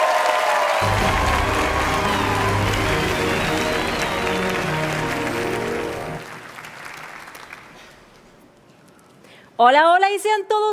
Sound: cheers and applause

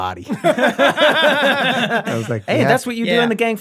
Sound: all laughing

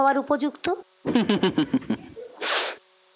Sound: laughs mockingly

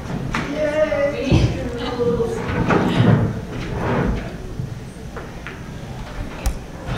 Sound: laugh

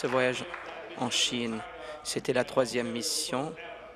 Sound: applause

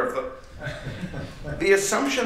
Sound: laughter

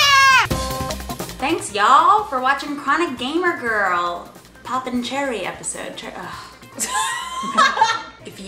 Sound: laughs

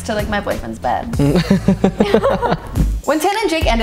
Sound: both laugh

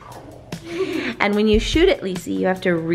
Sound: giggles

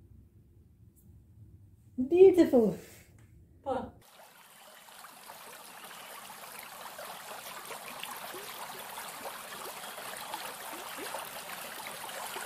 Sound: sound of flowing water

